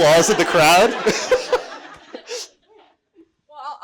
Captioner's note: audience laughing